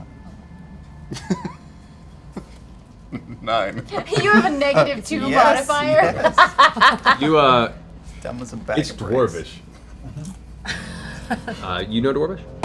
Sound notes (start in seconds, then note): 0.9 laughs